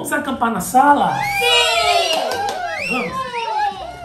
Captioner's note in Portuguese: Som de comemoração